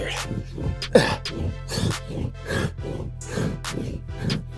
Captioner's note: Jay breathing deeply